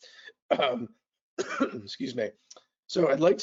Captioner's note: coughs